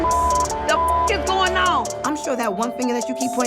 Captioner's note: beep